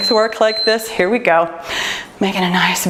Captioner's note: timer beeps